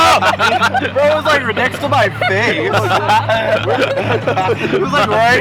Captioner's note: laughter